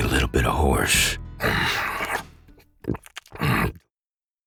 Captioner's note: eating